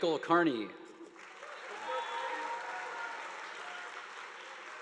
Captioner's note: audience applauding